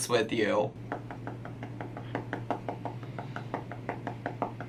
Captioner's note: fingers tapping